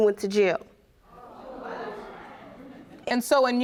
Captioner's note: audience murmurs